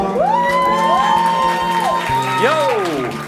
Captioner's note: crowd applauds